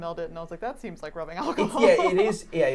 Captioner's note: laughs